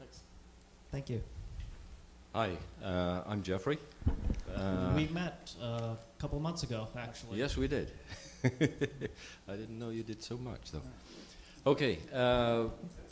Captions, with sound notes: Thanks. - Thank you. - Hi, I'm Geoffrey. - We've met, couple months ago actually. - Yes, we did. (laughs) I didn't know you did so much, though. Okay,